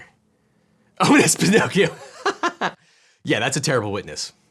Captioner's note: laughs